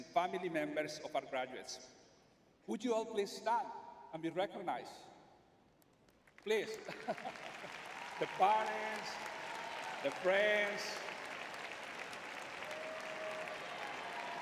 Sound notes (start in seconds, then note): 6.8 laughs; 7.4 audience applauding